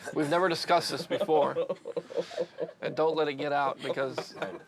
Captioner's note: laughing